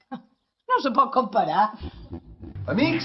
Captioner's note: laughs